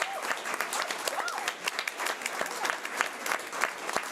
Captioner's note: audience applause